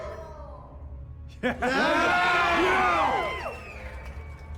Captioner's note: cheers and applause